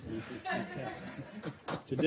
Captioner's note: laughter